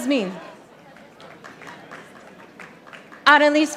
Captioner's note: audience applauding